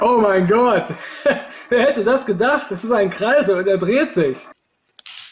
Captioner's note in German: lacht